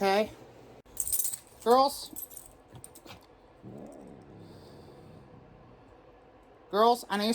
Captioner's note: Caprice growls